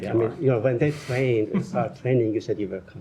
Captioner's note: laughter